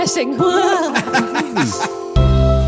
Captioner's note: laughing; robert laughing